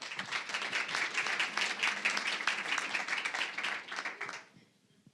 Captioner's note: applause